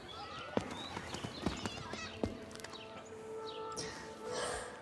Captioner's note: chatter; sighs